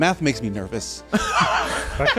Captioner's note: laughter